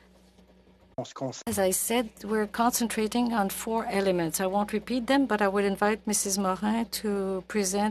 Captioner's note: speaking French